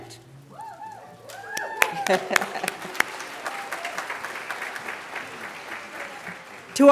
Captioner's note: applause